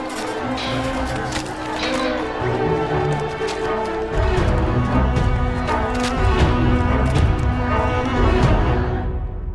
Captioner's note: roar of chatter, cinematic music